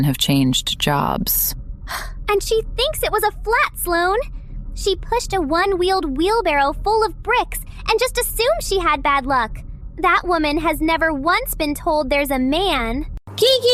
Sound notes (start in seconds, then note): 1.9 gasp